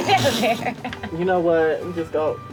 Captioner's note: laughter